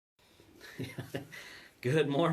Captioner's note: chuckling